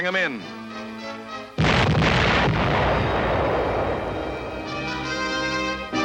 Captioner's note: explosions, music